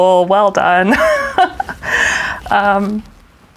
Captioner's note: laughs